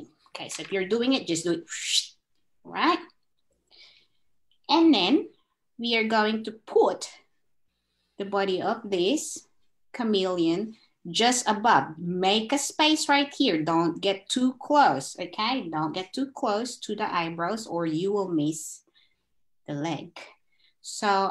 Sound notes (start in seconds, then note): 2.0 swoosh